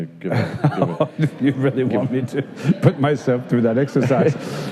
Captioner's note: laughing